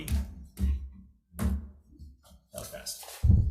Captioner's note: object banging